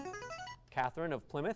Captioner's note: device sound